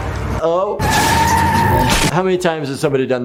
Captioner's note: playful horn music; car tires screeching